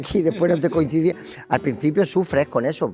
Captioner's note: laughs